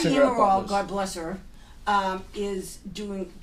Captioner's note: voiceover